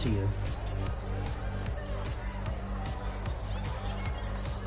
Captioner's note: indistinct club noise